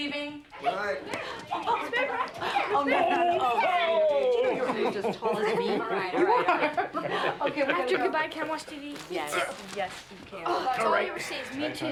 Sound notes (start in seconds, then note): 1.4 children chattering; 5.8 laughing